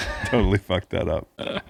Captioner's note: laughing